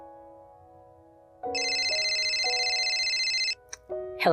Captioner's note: phone ringing